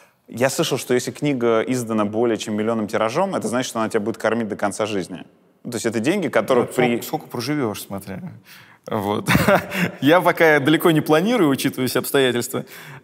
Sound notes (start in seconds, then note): 9.3 chortles